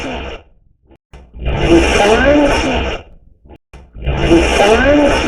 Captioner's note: radio scratching; radio voice